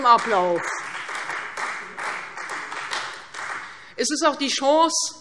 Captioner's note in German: Beifall Freie Demokraten